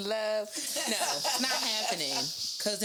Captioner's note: laughs